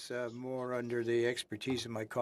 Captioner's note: speaking French